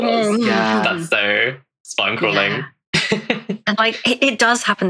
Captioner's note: laughs